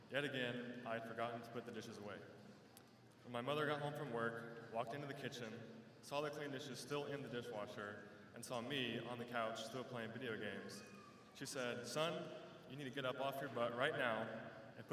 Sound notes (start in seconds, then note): none